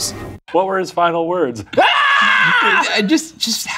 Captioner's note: screaming